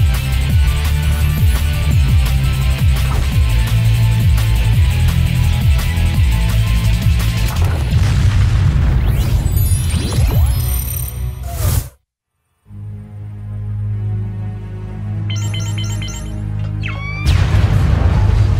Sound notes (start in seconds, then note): 7.4 explosion; 15.2 beeping; 17.2 explosion